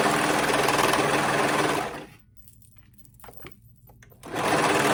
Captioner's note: serger clattering